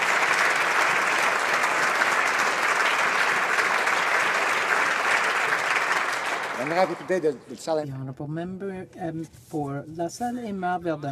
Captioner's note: applause